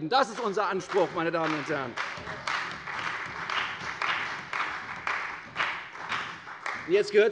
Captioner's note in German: Beifall bei der CDU und dem BÜNDNIS 90/DIE GRÜNEN